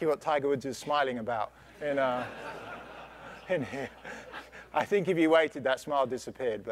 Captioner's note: laugh